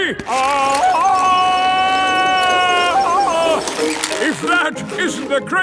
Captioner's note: yelling